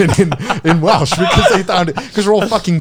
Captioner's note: all laughing